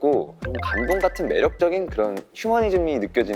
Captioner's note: none